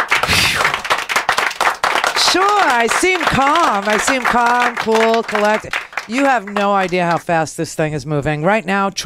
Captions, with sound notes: (exhales) Sure I seem calm. I seem calm, cool, collected. You have no idea how fast this thing is moving.